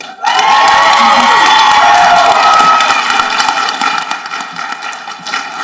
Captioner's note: people applauding and cheering